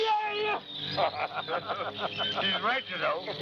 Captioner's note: laughter